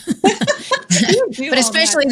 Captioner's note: both laughing